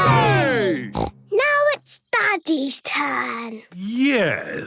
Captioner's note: snort